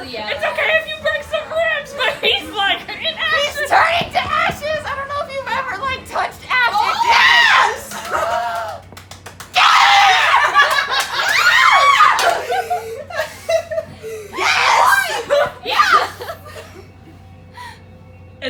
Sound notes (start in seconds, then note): 9.5 screaming for the gay CPR